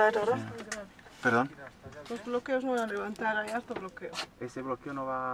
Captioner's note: in Spanish